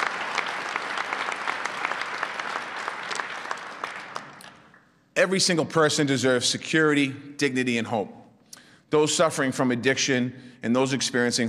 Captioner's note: applause